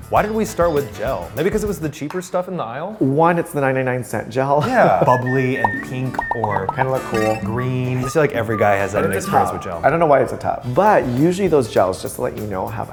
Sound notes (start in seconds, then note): 4.6 laughing